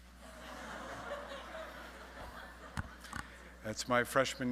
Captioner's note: audience laughing